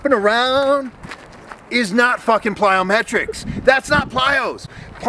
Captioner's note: girls chuckles off camera